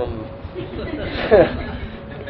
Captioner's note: Gülüyorlar